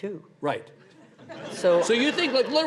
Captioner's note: audience laughs